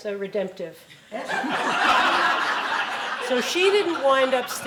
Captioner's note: laughing